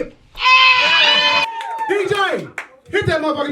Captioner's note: audience cheering